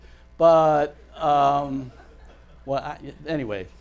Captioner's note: audience laughs